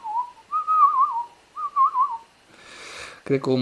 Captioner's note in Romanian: fluierat